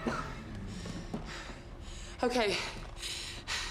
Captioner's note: Susan panting; Peter coughs